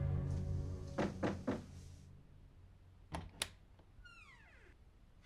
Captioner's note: Dottie knocking